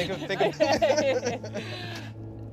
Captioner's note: laughing